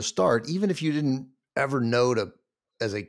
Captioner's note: none